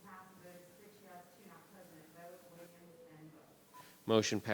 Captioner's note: speaking faintly